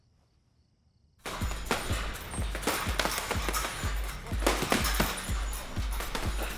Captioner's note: gloves pounding; upbeat music